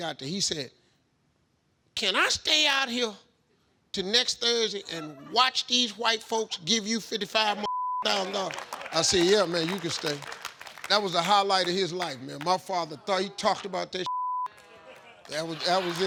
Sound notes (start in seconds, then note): 7.6 beep; 14.0 beep